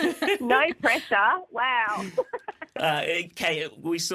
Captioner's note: laughter